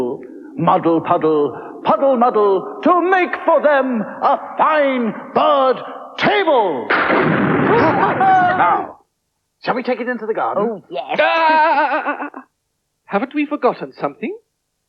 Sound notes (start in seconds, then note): 6.9 sound Of Thunder